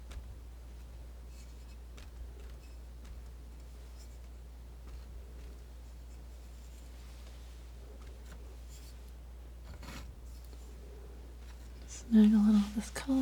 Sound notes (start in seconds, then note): 0.0 scratching